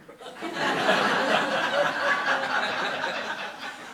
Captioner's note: laughing